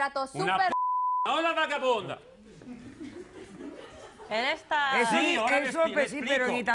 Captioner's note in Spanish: Bip